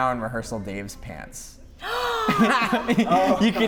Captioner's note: gasp